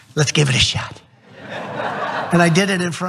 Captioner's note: laugh